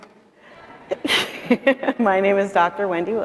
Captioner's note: chuckling